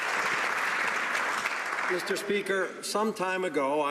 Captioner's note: some Applause